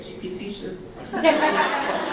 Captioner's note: audience laughter